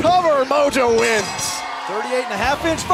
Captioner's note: bell ringing